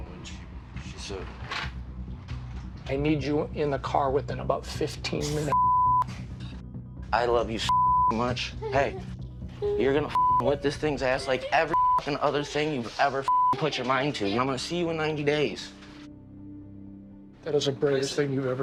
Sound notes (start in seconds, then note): 8.1 sobs